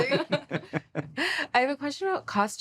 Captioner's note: laughter